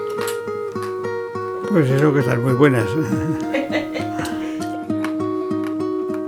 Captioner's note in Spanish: risas